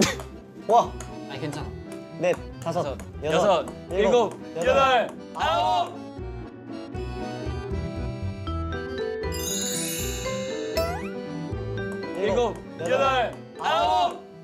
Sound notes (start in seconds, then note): 0.8 the clear sound of the ping-pong ball and counting fill the air